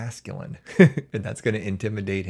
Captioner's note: chuckles